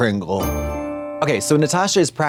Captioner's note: bright chime